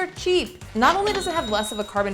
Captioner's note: cash register chimes